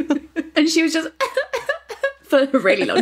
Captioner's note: sobbing